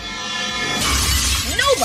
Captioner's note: shatter